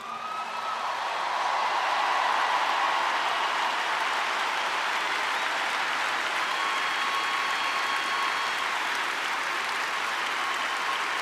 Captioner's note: applause